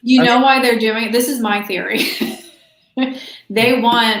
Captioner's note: laughs